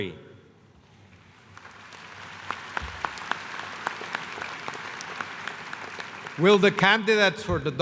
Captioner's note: applause